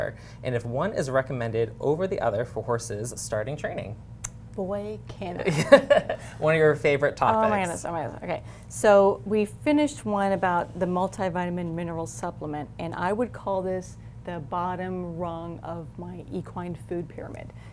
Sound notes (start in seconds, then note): 5.4 laughs